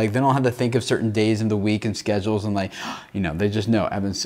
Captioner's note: gasping